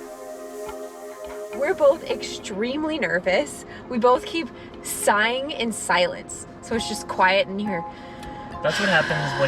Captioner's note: sighing sounds